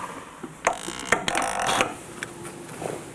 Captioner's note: crunching